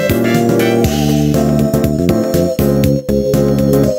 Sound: yawn

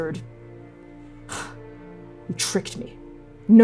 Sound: breathing out

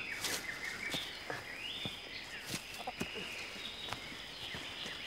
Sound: birds chirping

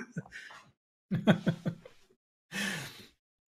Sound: laughter

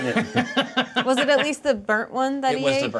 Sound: co-host laughing

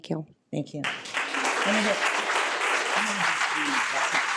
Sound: audience applause

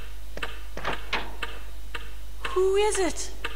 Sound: door opens

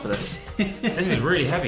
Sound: laughing

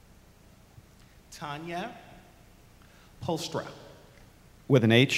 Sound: voiceover

